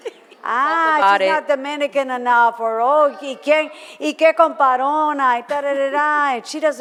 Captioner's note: foreign language